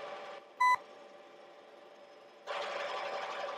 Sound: beep

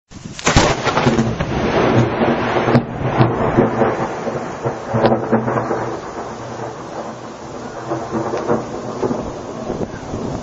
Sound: thunder

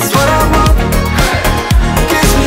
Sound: crowd

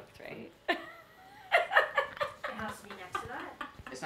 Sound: laughing

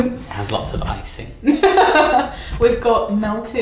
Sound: laughing

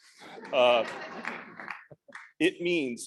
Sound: audience laughing

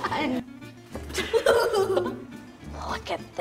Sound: laughter

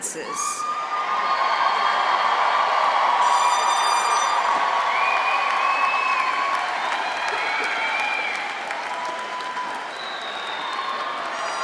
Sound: cheering

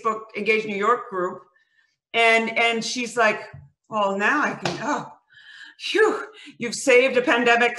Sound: sighs

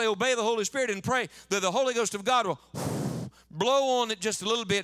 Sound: blows into mic

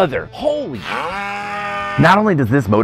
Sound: cow mooing

